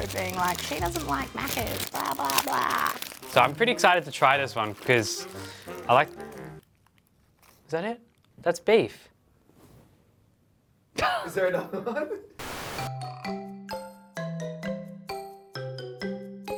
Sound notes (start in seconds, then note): 6.5 music stops dramatically; 11.0 laughs; 12.7 upbeat slow music